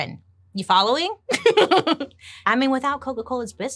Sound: laughs

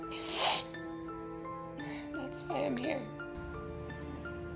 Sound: sniffs

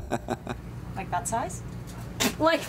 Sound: laugнs

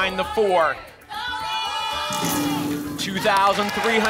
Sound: cheering

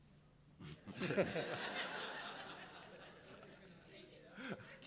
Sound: crowd laughing

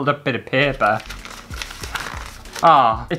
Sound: paper Rustling

